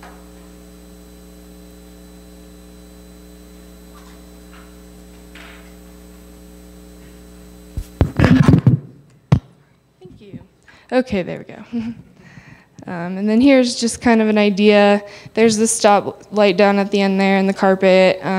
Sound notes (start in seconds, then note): 8.0 mic bumping